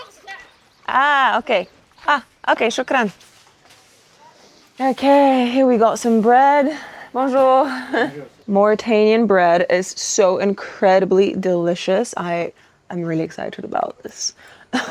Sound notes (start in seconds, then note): 2.9 speaks in foreign language; 7.3 speaks in foreign language; 14.7 laughs happily